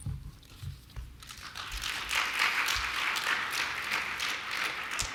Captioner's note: applause